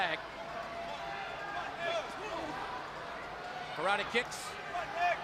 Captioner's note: crowd chatter